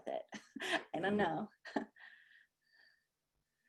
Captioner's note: laughter